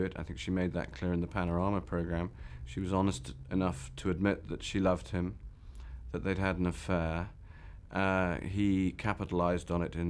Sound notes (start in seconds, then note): none